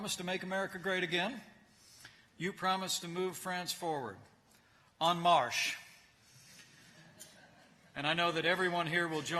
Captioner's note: laughter